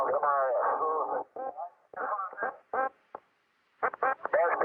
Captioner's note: radio squawking choppily